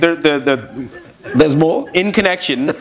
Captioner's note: chuckle